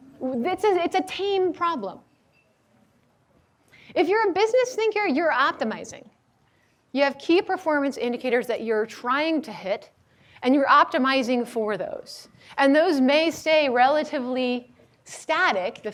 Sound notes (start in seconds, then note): none